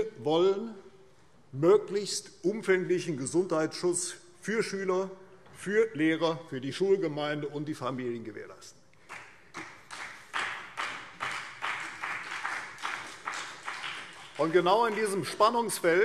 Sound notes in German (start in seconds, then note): 9.0 Beifall CDU